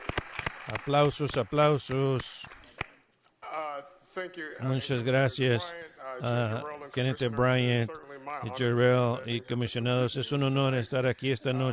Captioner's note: applause